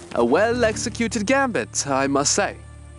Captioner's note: none